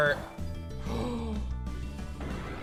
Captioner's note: gasps